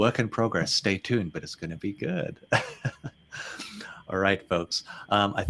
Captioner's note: chuckles